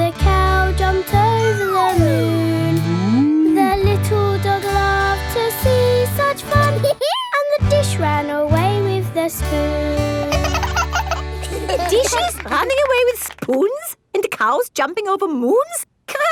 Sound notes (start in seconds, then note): 6.8 dog laughs; 10.2 both laugh